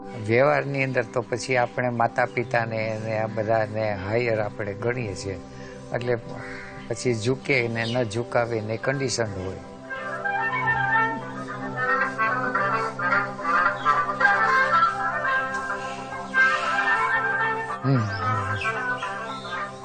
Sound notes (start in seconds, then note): 9.9 phone rings